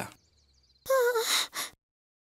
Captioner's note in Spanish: solloza